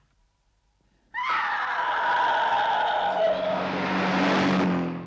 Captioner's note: Eve screams